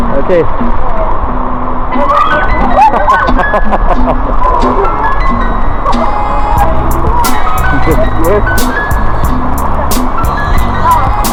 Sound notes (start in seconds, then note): 2.0 scream; 2.6 laugh